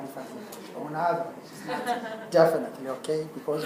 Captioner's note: laugh